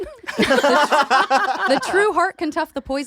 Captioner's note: laughter